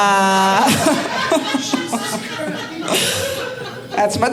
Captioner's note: audience laughing